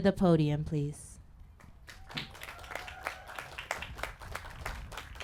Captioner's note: applause